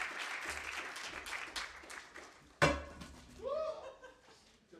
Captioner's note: applause